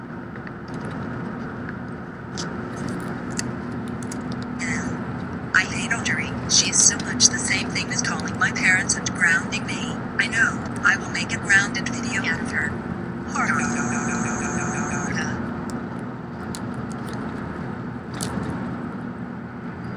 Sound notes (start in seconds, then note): 13.5 Rosie Laughs